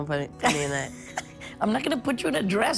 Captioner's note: laughing